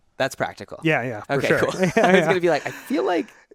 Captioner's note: both laugh